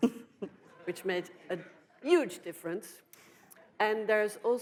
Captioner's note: audience laughs